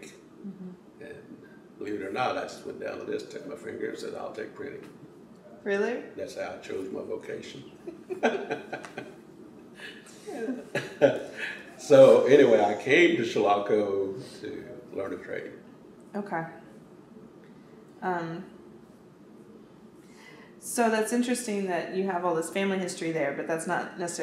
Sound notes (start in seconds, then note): 9.7 laughs